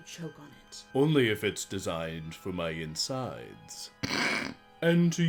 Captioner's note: snickers